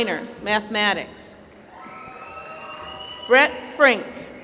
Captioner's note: applause